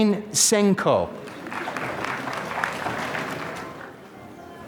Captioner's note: applause